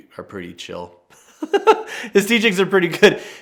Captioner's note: laughs